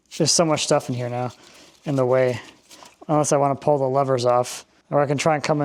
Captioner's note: none